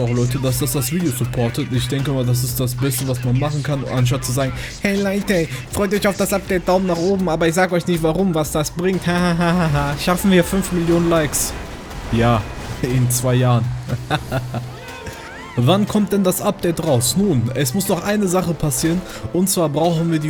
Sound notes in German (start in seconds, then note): 10.1 Lacht